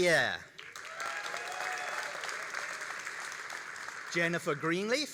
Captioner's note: all applauding and cheering